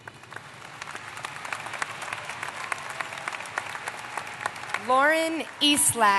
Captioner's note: applause